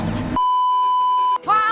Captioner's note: beeeeeeeeeeeep